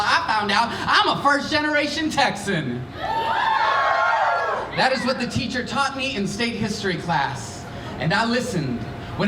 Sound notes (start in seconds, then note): 3.0 cheering